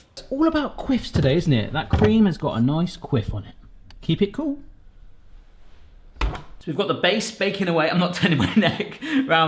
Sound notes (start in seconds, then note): 5.8 refrigerator door shuts; 9.0 laughs